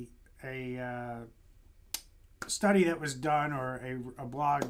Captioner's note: hands clapping